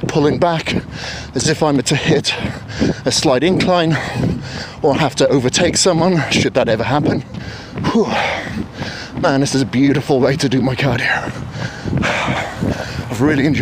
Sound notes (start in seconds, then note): 7.2 huffs